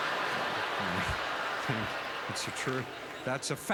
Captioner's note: audience laughter